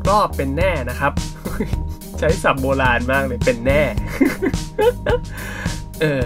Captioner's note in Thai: ขำ